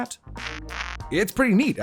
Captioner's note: c-gal beeps negatively